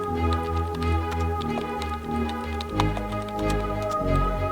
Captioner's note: keyboard clacks